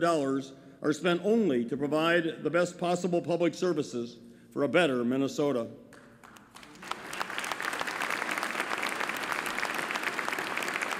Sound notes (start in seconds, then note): 5.9 applause